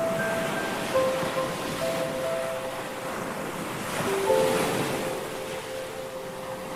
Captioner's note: soft music playing; waves crashing